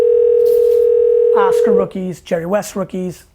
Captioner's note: phone rings